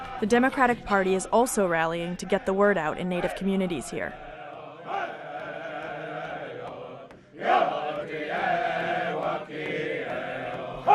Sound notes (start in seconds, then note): 4.6 chanting